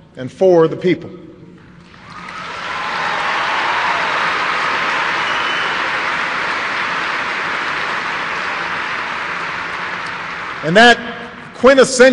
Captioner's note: applause